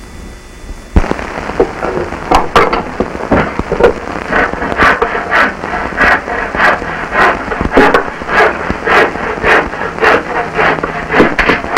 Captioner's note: sawing and hammering wood